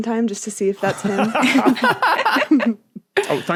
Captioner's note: group laughing